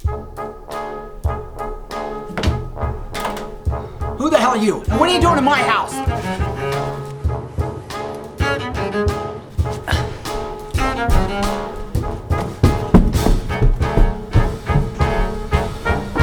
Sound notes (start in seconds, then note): 12.6 footsteps running